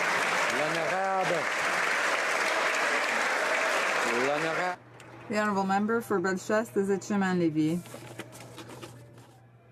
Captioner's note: some Applause